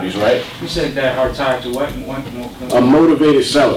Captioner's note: voiceover